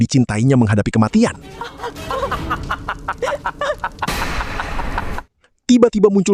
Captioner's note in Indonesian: tertawa